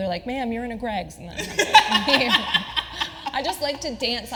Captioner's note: laughing